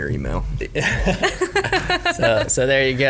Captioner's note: laughter